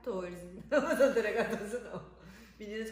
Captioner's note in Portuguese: risos